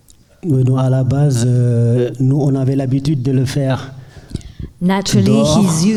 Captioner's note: speaking in French